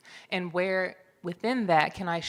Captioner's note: none